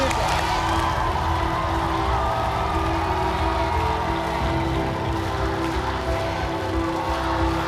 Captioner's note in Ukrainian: оплески